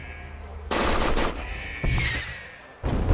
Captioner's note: sirens; gunshots; missle sound; explosion